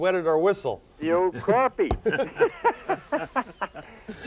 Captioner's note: laughs